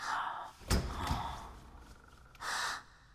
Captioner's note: door Opens